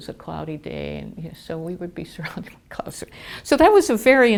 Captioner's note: laughter